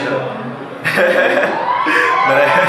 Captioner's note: laughter